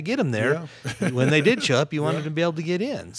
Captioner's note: laughing